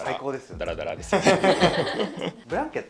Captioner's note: laughs